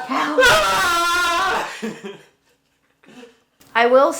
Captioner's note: laughs